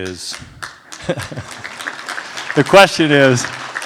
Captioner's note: applause